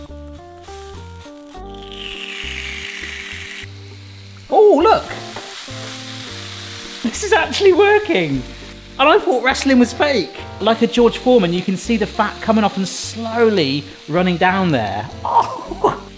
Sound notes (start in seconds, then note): 0.1 grill sizzling; 6.1 grill sizzling; 15.3 laughs